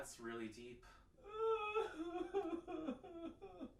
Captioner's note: crying